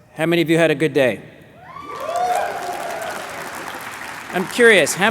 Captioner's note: cheers, applause